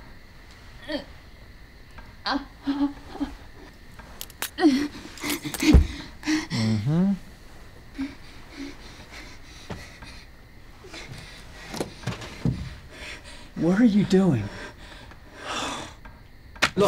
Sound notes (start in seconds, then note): 0.8 whimpering